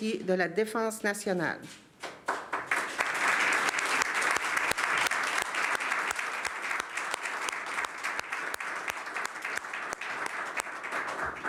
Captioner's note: speaking french; applause